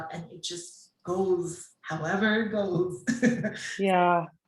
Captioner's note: chuckles